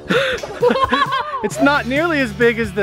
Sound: laughing

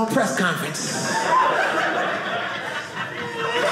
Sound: audience laughing

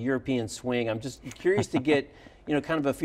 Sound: laughs

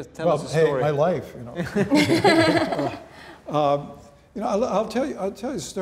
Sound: laughing

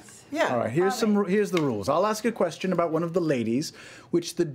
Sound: none

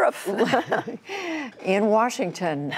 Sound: laughter

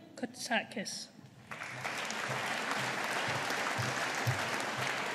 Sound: audience applauding

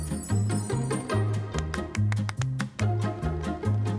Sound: clapping

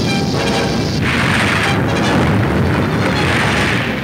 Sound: crashing

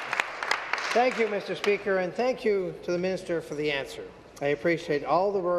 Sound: applause

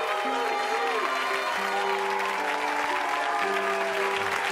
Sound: audience applauding

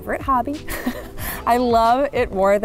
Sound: laughing

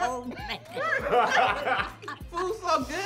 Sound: all laughing

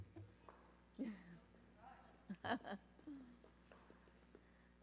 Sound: laughs

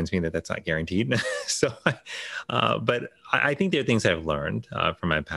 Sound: chuckles

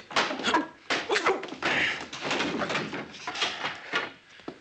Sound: Joe groaning

